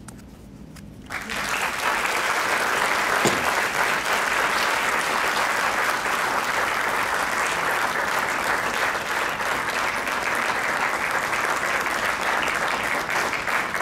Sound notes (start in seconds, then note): 1.5 crowd clapping